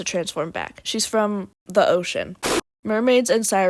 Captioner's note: sped up explosion sound effect